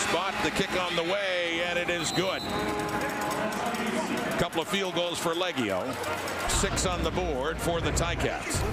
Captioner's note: crowd Noise